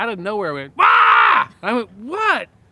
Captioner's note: shouts